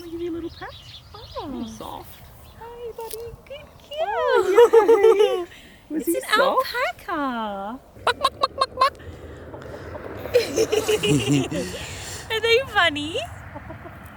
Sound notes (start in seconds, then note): 8.0 chicken crowing; 10.0 giggling